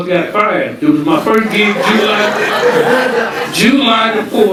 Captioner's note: audience laughing